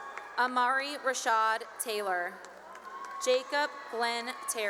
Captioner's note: cheering and applause